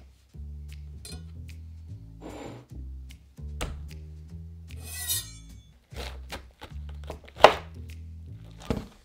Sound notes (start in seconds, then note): 0.1 jazz music playing in background throughout video; 4.8 knife cutting